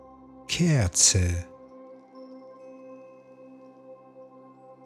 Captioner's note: german